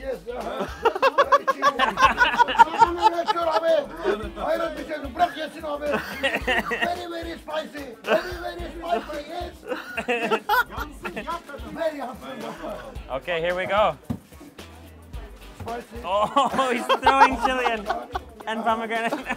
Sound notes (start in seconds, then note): 0.4 laughs; 3.1 speaking foreign language; 9.5 laughs; 19.1 laughs